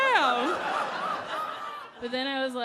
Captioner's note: audience laughing